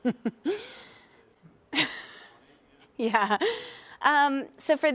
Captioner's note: laugh